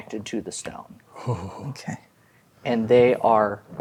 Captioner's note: shudders